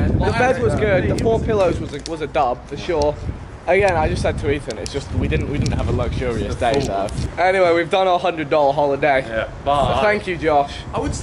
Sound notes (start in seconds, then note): none